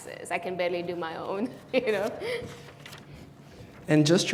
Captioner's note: laughs